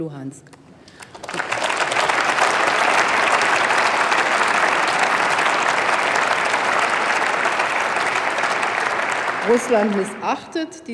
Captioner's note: Applause by CDU/CSU, SPD and the Greens